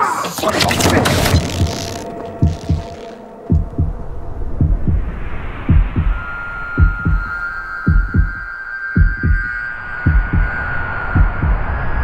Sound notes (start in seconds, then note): 0.3 rope creaking; 1.0 heartbeat thudding; 3.4 wind whooshing; 4.4 dramatic music